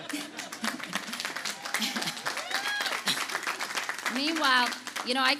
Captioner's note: audience applauding